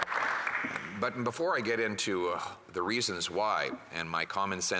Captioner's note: some Applause